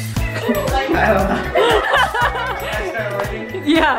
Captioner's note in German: kichert